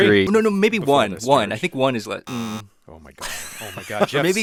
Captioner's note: buzzer beeping